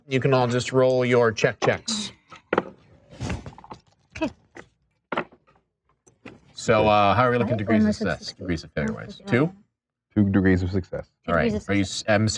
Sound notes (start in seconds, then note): 2.7 dice rolling